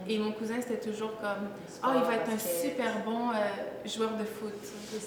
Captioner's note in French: none